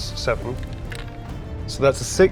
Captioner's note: die rattling